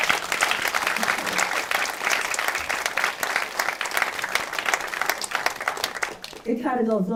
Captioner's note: applause